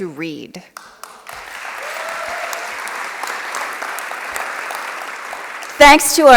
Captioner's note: applause